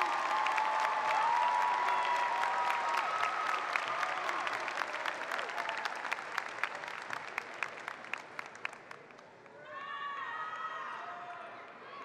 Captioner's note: cheering and applause